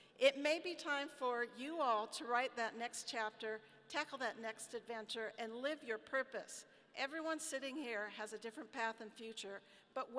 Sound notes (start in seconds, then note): none